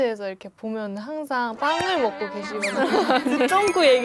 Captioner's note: gulp